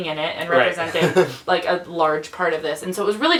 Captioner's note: laughs